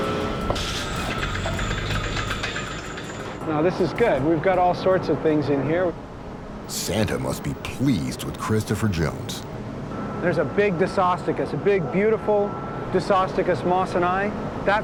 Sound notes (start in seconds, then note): 0.1 chains clanking